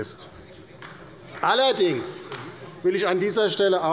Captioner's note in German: Beifall bei der LINKEN